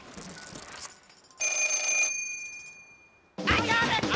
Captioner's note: phone ringing